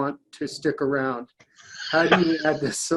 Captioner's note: laughs